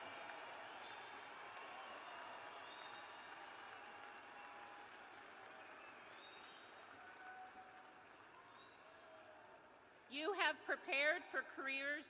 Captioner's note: cheers and applause